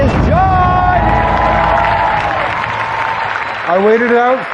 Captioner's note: cheering and applause